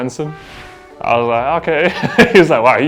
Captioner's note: laughs